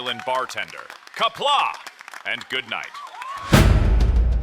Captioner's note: audience roars